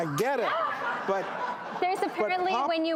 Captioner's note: audience laughing